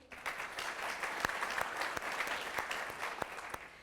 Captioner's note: applause